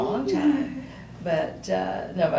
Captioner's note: laughs